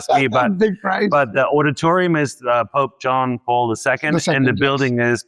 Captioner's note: laughs